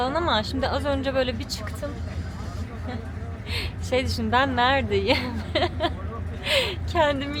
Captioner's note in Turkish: kahkaha